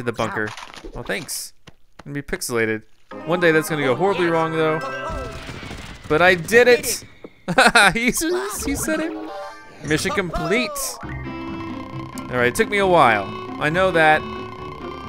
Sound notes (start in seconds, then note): 7.3 voiceover; 7.4 laughter